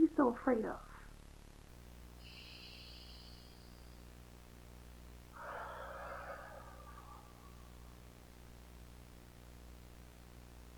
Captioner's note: deep breath